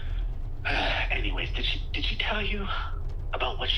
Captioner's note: sighs